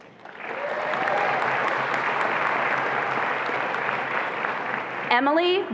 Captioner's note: attendees applauding and cheering